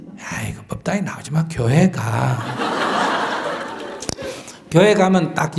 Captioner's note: audience Laughter